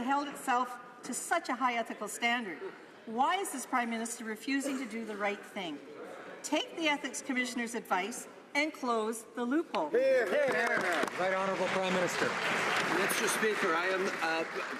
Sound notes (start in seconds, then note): 12.9 some Applause